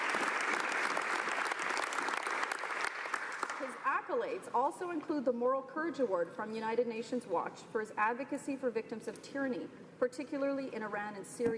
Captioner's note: applause